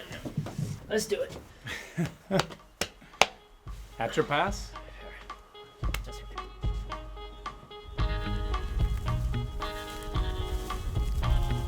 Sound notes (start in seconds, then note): 1.6 chuckles; 1.9 groovy music plays